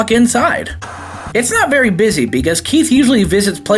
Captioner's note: TV Static